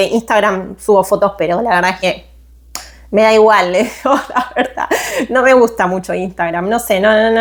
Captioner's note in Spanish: risas